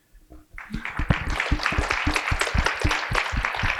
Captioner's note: applause